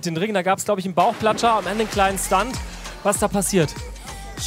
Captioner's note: Plätschern